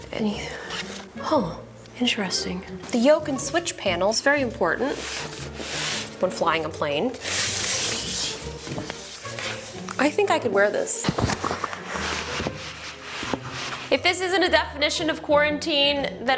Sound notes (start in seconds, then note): 7.0 box scrapes; 10.6 box rustles